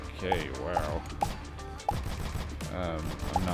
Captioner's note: gunshots